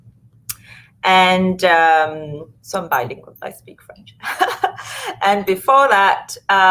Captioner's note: laughs